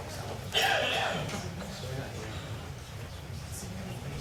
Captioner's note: people chatting